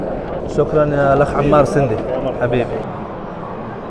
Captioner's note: Arabic